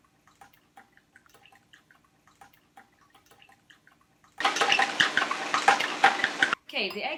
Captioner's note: beating eggs gets increasingly louder